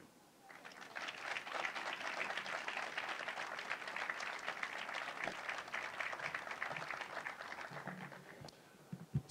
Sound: applause

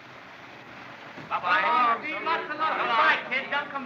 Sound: men Calling Good-byes

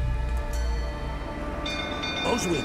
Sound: alarm bell ringing

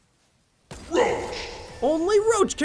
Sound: sound effect

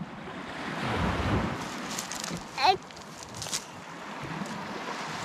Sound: babbling

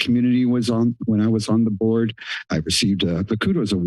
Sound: clear throat

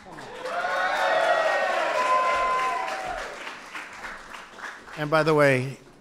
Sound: applause

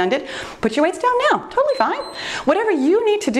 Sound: timer beeps

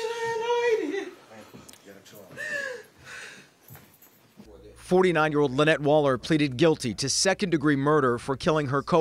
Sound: crying

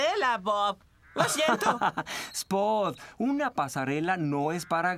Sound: chuckling

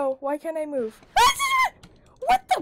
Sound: shrieks

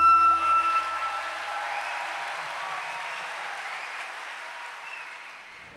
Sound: applause

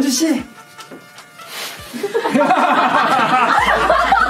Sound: laughing

